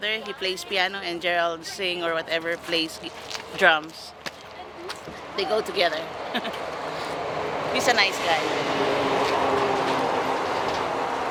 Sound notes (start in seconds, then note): 6.3 chuckles